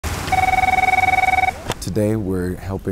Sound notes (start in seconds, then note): 0.2 phone ringing